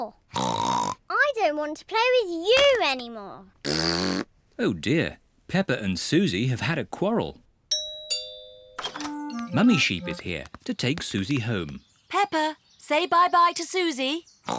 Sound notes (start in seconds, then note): 0.1 snorts; 3.6 blows raspberry; 7.7 doorbell rings